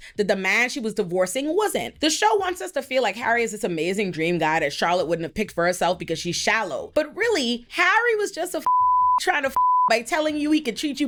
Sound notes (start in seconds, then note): 9.4 beep